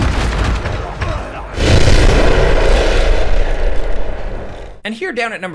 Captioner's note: explosion blasts